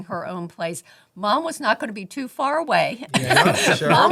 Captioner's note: laughing